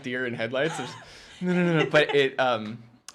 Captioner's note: laughter